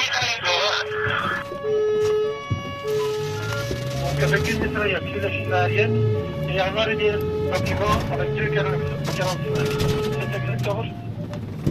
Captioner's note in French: sirènes et messages radios